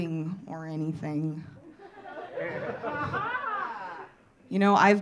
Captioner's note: audience laughing